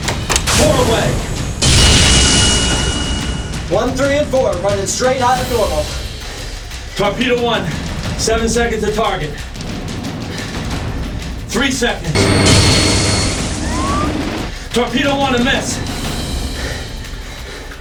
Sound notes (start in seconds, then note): 0.0 torpedo blasts; 2.9 torpedo blasts; 12.1 torpedo speeds